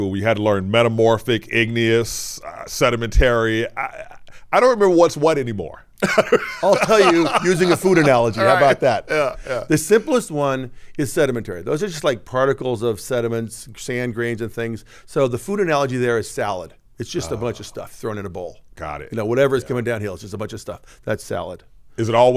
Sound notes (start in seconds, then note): 6.0 laughs